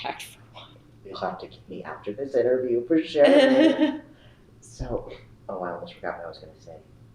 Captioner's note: laughter